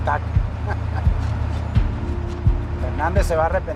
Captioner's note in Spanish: Risas